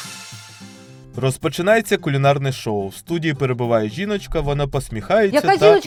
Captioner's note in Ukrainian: закадровий голос